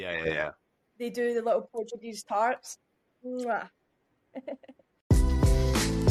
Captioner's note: laughter